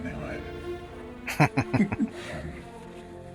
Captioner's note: chuckling